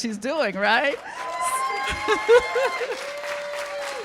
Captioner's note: cheers and applause